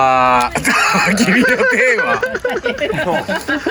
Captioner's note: laughing